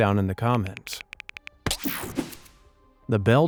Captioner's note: cell phone keyboard clicking